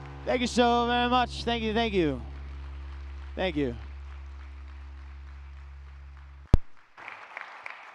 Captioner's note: clapping; cheering